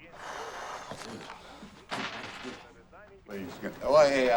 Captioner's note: Adam sighs